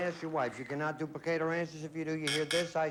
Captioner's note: buzz buzz